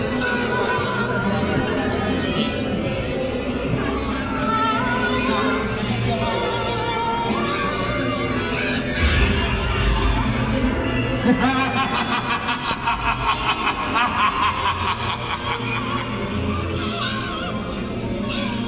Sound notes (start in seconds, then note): 11.2 The Phantom laughs